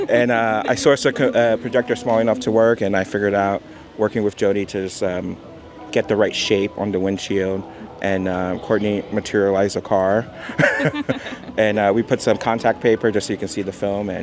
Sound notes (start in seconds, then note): 10.4 laughs